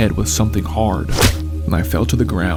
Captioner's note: smacking sound